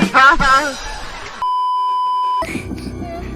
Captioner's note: beeeeeeeeeeeep